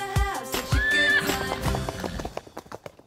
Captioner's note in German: Wiehern